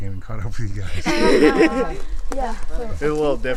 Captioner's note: all laughing